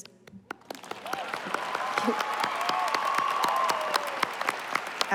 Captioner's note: applause